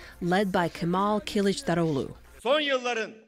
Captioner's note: through translator